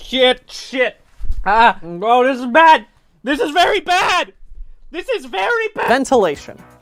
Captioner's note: yelling